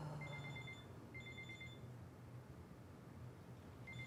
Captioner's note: phone ringing